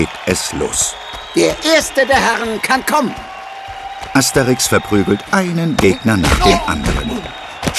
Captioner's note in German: applaus